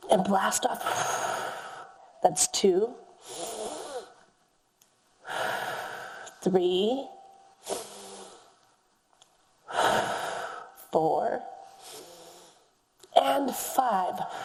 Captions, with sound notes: and blast off. (exhales deeply) That's two. (inhales deeply) (exhales deeply) Three. (inhales deeply) (exhales deeply) Four and five.